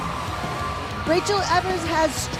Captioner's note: cheers and applause